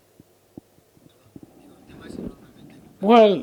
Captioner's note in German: spanisch